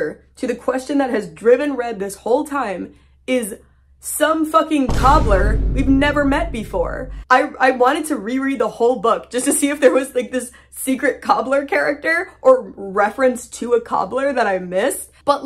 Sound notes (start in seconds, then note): 4.8 boom; 6.5 stammering